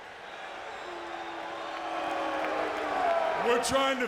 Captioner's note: audience jeers